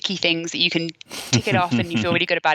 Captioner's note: laughing